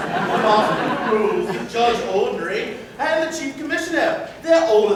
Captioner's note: laughter